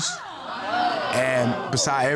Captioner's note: audience exclaiming